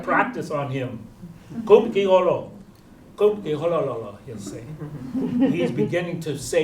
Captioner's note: non-english